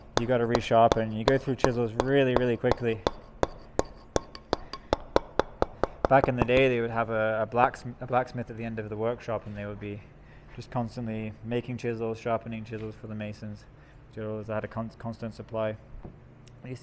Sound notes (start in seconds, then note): 4.4 metal hammering